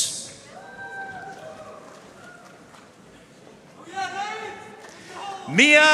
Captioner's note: audience cheering and applauding